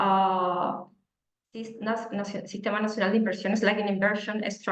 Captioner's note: speaking Spanish